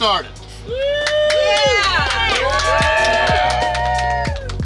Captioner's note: clapping & Cheering